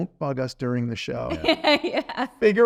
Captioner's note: laughing